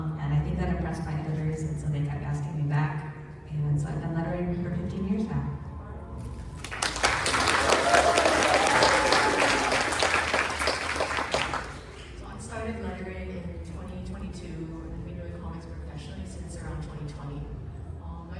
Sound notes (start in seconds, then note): 6.5 applause